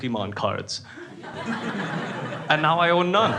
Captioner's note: crowd laughing